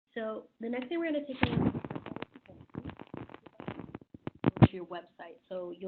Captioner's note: audio crackling